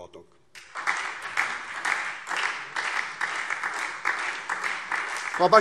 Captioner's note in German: Lebhafter Beifall SPD und DIE LINKE